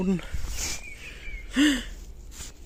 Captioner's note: gasp